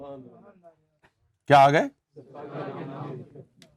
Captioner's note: audience replies